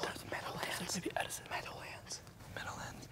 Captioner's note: whispering